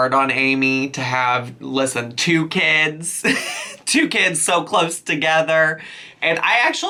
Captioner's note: laughs